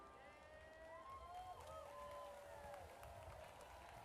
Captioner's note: audience cheers